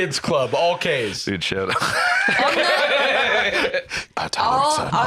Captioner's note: laughs